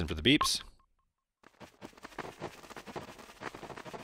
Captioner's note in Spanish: Sonidos de Scout Corriendo